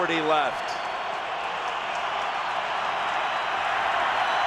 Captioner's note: crowd cheers